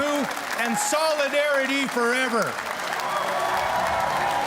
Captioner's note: cheers and Applause